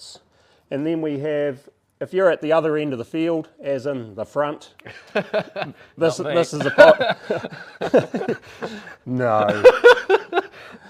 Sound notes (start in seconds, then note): 6.3 laughter